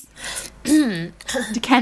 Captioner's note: clearing throat